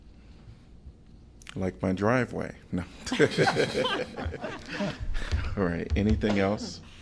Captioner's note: laughter